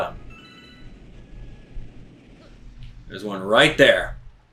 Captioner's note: Star Bits chiming